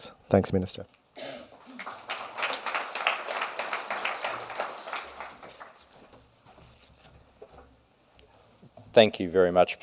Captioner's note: audience applause